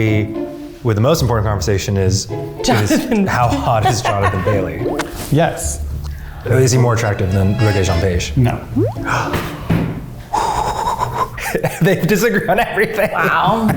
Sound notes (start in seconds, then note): 9.8 gasps